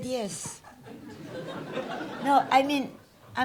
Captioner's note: audience laughs